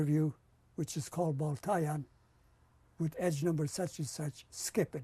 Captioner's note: non-english